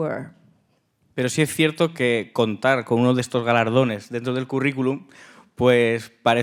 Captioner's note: speaking in Spanish